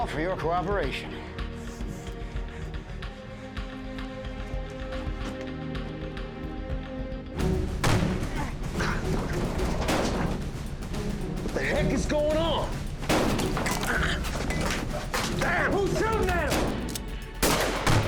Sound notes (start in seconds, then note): 8.9 gun shot, grunt; 10.7 gunshots; 13.6 gun shot, grunt; 17.8 gunfire